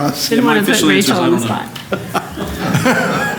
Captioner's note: laughter